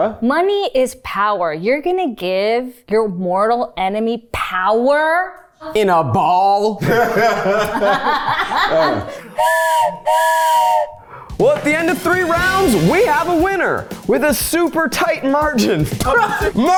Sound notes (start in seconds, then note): 6.8 everyone laughs; 9.3 whistle blows